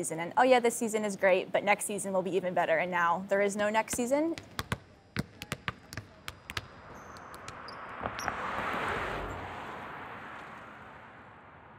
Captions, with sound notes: and oh yeah this season is great, but next season will be even better, and now there is no next season. (basketballs being dribbled) (traffic noise)